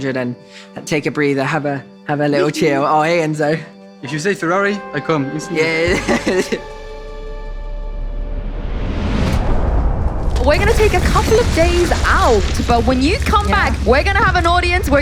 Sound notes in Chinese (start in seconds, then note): 5.6 大笑